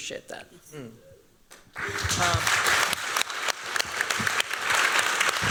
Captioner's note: applause